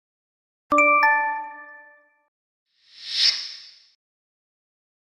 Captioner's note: notification chimes